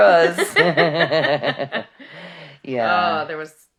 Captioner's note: laughing